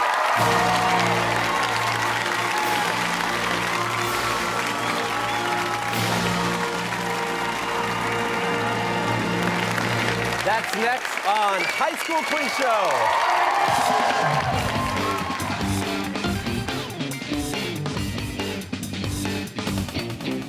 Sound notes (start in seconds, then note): 0.2 fanfare; 4.5 cheers and applause